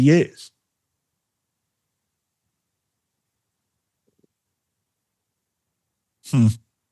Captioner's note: silence